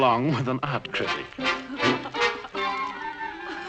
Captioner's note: laughing